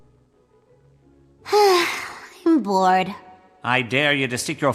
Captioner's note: sigh